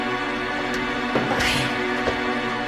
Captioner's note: sighing